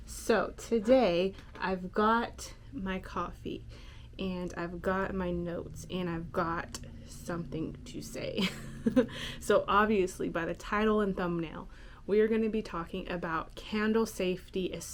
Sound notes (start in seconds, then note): 8.4 chuckles